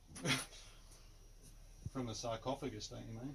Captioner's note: laughs